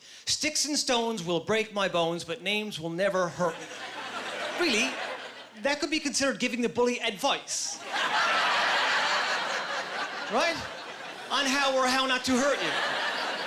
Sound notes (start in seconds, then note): 7.7 laughing